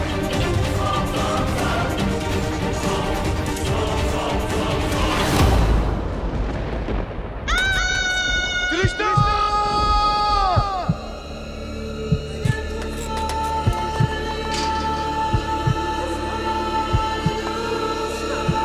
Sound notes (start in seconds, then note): 0.2 dramatic music; 7.4 yells; 12.0 intense music